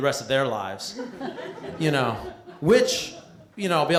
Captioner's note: laughter